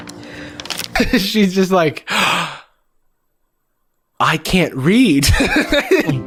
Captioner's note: gasps; laughs